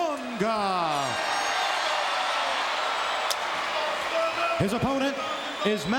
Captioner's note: audience cheering